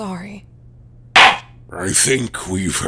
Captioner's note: gavel slams!